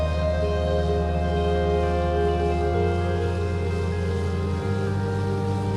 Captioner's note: tractor engine rumbles